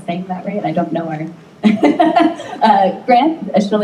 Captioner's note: laughs